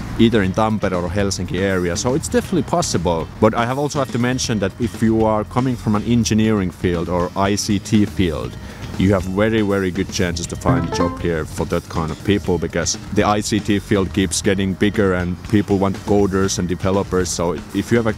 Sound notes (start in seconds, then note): 10.7 ding